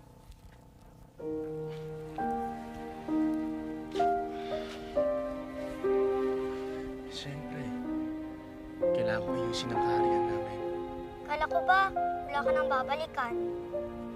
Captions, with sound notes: -[sighs] -[dramatic music playing] Of course. I need to rebuild our kingdom. I thought you didn’t have anything to go back to?